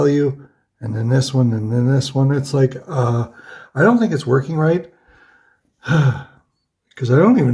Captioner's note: huffs